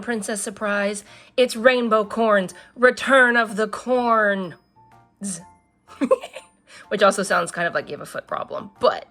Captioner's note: laughs